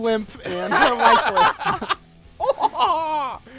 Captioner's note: laughter